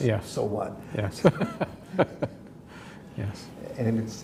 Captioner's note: laughs